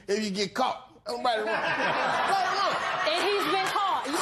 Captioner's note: laughter